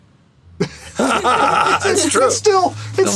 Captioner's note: laughter